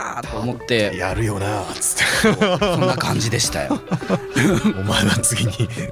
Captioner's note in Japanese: 笑い